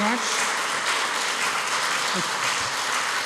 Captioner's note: applause